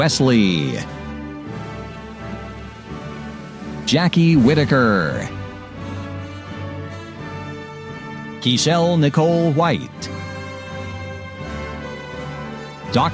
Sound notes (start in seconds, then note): none